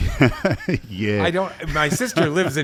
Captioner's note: chuckles